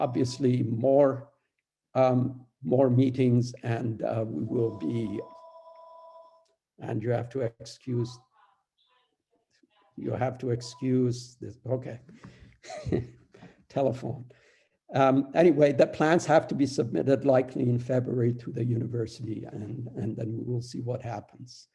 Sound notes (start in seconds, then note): 4.4 phone rings